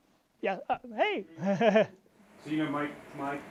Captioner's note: chuckles